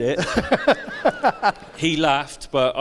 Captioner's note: laughs